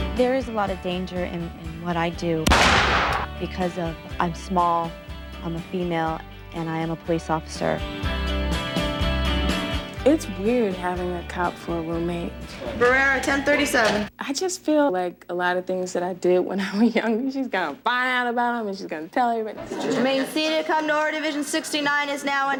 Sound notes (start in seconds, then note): 2.4 gunshot firing